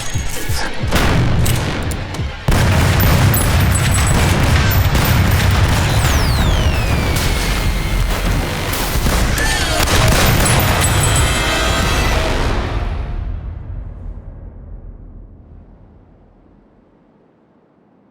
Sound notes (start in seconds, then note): 2.5 gunshots blasting; 11.0 dramatic music